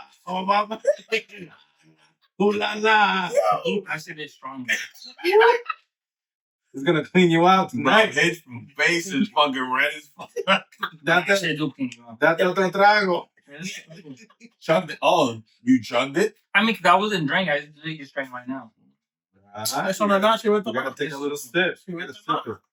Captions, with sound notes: I said it's stronger. He's gonna clean you out. Nice. His face is fucking red as fuck. (Speaking In Foreign Language) Oh, you jumped it? I mean, cause I wasn't drinking. I didn't drink right now. (Speaking In Foreign Language) You gotta take a little sip. You gotta sip it.